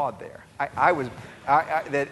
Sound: audience laughing

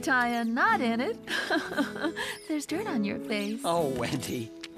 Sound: chuckling

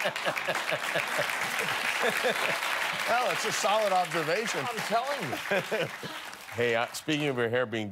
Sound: cheers and applause; laughter

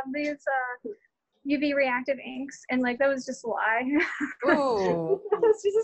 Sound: laughter

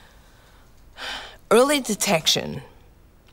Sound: sighing

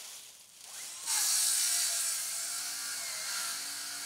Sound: saw whirring

